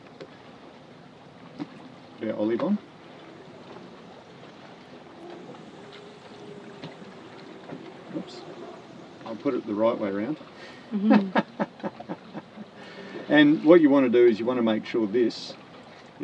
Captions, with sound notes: Put our olive on. Whoops. I'll put it the right way 'round. (laughing) And what you want to do is you want to make sure this